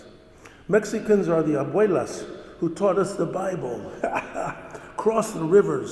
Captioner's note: laughs